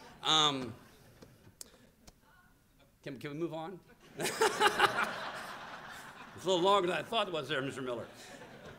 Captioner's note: laughter